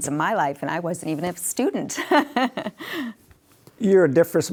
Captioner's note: laughing